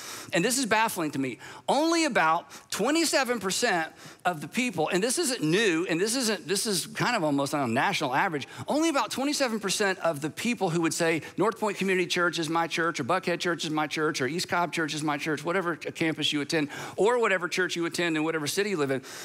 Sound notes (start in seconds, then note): none